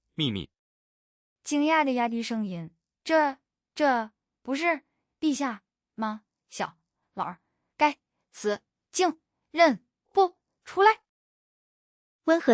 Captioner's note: lowering his voice in astonishment